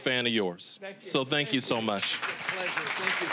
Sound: applause

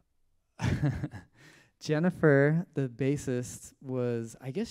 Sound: giggles

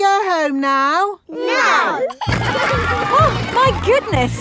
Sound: giggling

